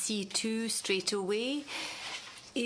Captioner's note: speaking French